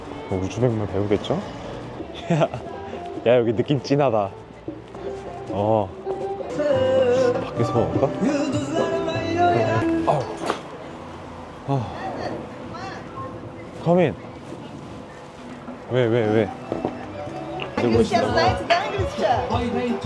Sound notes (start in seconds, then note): 10.0 bag put down